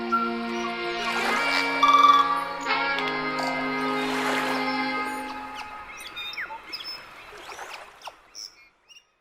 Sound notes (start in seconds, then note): 0.0 speaking Maori; 0.0 upbeat music; 6.4 birds chirping